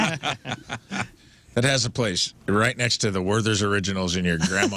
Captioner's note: laughing